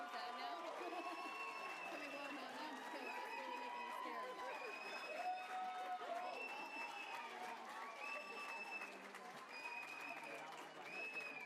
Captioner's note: applause